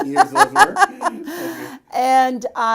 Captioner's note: laughs